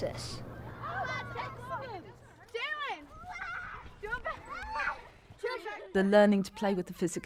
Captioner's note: children shouting and playing